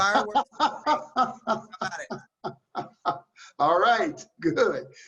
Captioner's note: laughs